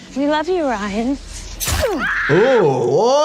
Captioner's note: knife slicing; victim screaming